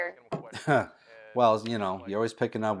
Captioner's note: William chuckles